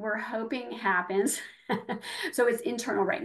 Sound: laughing

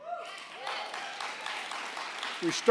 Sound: applause

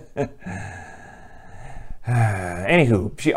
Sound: sigh

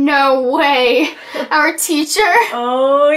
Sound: Amber chuckles

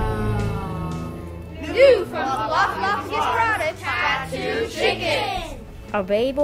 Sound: clap!

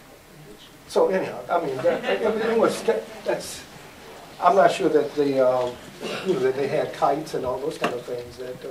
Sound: laughter

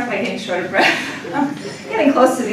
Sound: laughter

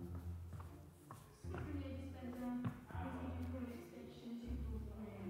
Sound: foot stomping on floor

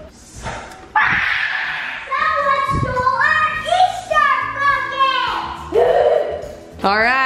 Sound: yelling

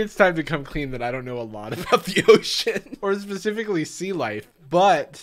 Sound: laughs

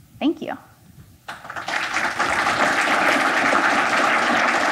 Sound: applause

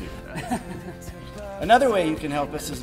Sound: chuckles

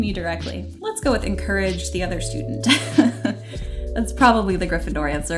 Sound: laughs

